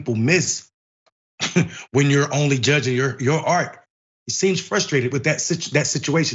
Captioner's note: laugh